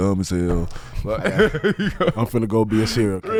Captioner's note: laughing